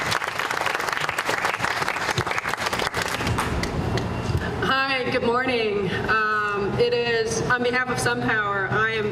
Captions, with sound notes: [ APPLAUSE ] >> HI, GOOD MORNING.